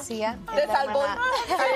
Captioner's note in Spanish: risas